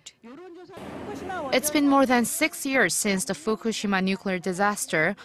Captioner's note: Korean